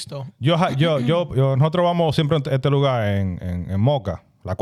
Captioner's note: speaking In Foreign Language